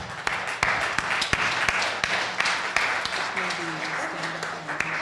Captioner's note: audience applauding